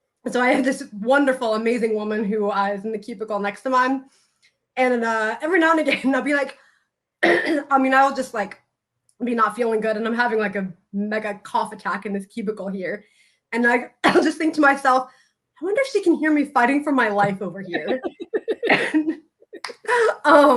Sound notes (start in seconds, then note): 7.2 clears throat